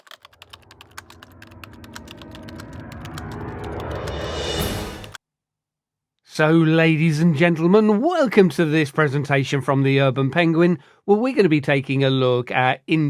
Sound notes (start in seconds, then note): 0.0 typing sounds